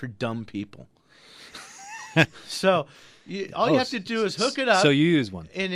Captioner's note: laughs